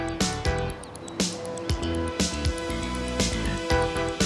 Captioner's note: motor whirring